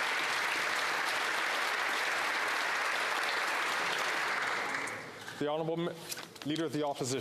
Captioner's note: applause; some Applause